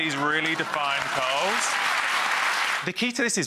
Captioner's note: audience clapping